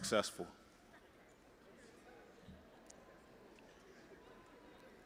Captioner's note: audience chattering